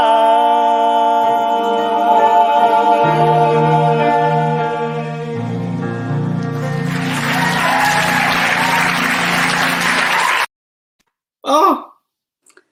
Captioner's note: applause